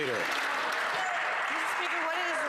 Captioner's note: some Applause